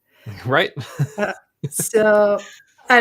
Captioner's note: group laughing